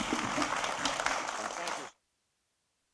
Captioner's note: applause